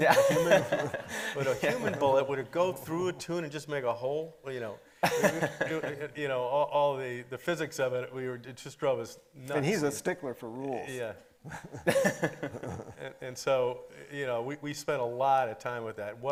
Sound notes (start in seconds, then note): 0.0 everybody laughing; 5.0 laughing; 11.5 everybody laughing